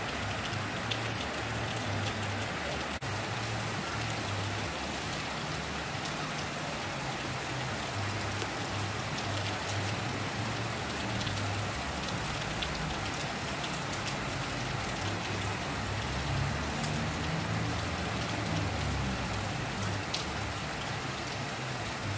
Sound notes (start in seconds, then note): 6.1 rain Sounds